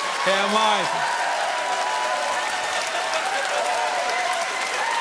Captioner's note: audience cheers and claps loudly